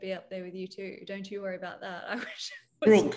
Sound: laughs

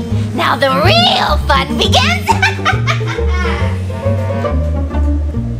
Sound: evil laughter

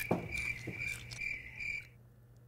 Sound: crickets; crunching

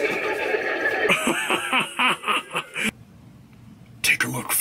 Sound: Lucky Laughing

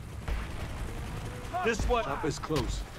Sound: chopper blades whirring

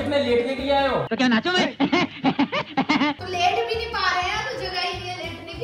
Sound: laughter

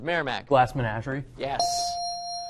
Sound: ding

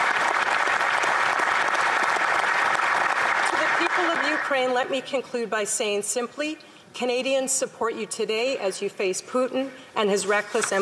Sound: applause

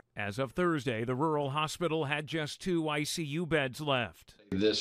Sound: chokes up

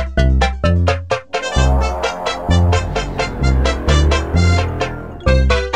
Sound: roomba noises

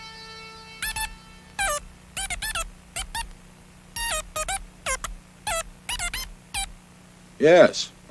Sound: plastic rock making beep boop noises

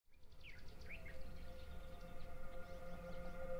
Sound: birds chirping; ambient music

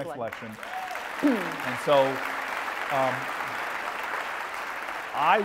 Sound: applause

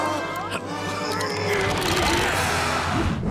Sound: grunting; cheering

